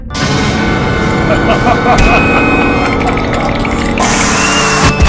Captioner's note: evil Laugh